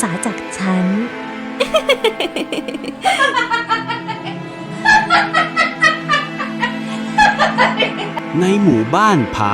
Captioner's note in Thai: เสียงหัวเราะ